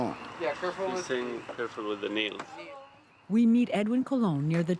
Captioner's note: speaking spanish